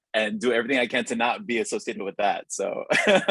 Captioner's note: laughs